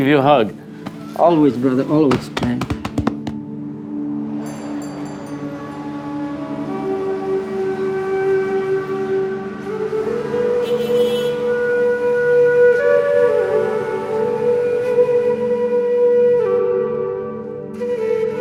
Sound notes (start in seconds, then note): 2.7 hands patting; 4.5 bell tinkling; 6.8 melancholic music; 10.6 horns beeping; 13.0 flute resounding